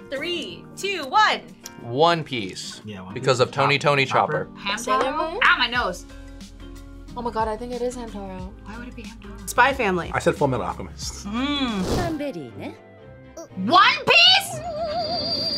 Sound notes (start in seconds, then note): 12.4 character speaking in foreign language